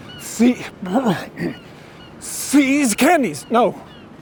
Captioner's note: cough; choke